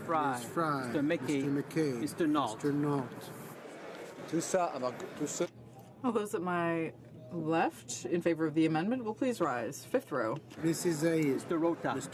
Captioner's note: speaking French